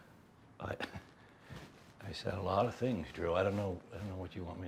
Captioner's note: chuckles